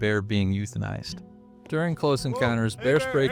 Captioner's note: hikers yelling